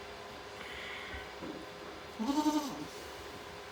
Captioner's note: Maybel bleating